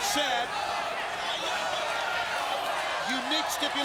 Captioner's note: crowd chattering